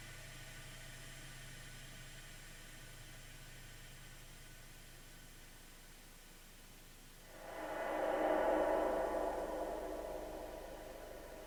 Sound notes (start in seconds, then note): 7.2 air whooshes